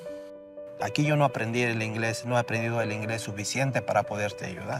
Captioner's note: speaking in Spanish